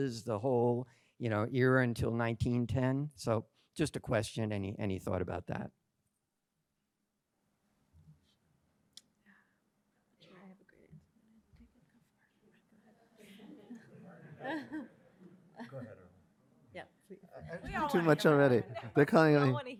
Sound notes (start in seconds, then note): 8.5 panelists chatting